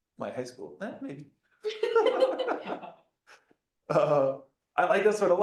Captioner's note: laughter